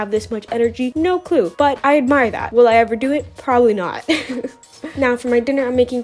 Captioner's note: giggles